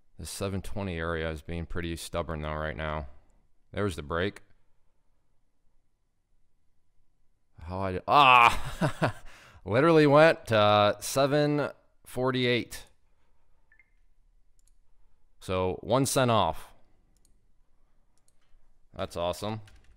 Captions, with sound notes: This 7.20 area is being pretty stubborn though right now. There's the break. (groans) (laughs) Literally went to 7.48. So, one cent off. That's awesome.